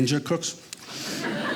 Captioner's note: audience laughing